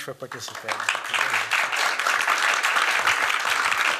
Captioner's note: applause